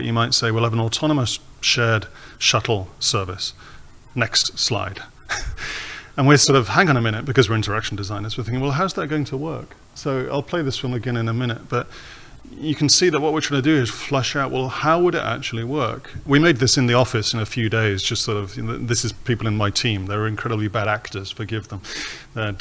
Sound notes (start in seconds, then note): 5.2 laughs